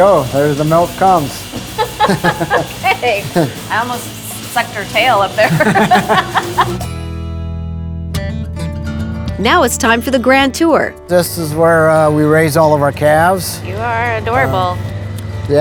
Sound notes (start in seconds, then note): 1.7 laughing; 5.4 laughing; 6.8 upbeat music